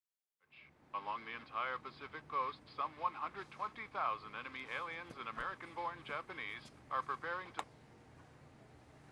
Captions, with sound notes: [RADIO] Along the entire Pacific coast, some 120,000 enemy aliens and American born Japanese are preparing to-- [radio clicks off]